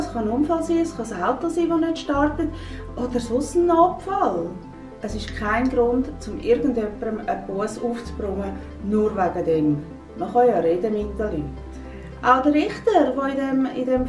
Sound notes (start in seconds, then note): 3.8 woman speak Swiss German